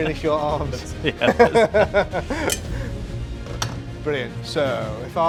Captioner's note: laughs